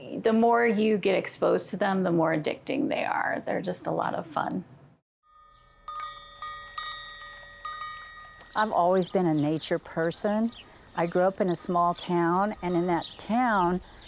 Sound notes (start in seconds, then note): 5.3 chimes